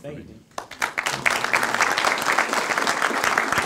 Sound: applause

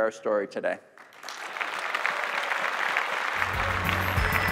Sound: crowd applauding; gentle music

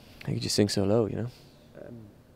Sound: quietly

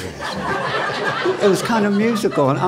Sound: laughter

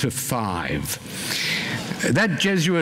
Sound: gasping

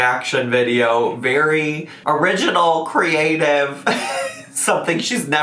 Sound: laughs

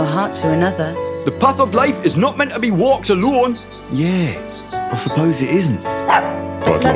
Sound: bark

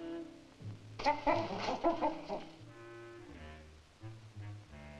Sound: gorilla chittering

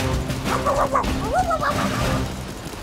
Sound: barking

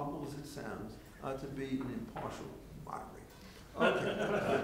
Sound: murmurs; laughing

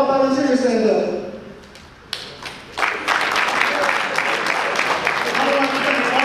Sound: audience applause

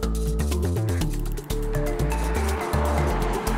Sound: car noise

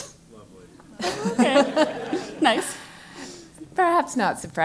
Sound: laugh

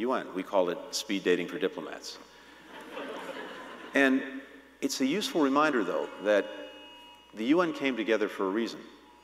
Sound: laughter

